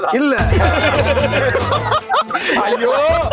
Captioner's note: laughs